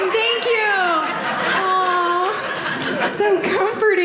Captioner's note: audience laughing